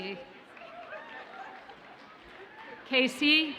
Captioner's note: audience cheers faintly